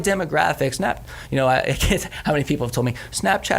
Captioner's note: chuckles